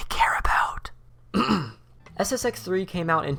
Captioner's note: clears throat